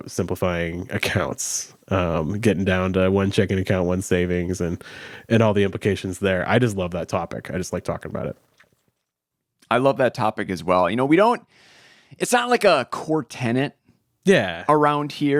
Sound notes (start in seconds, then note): none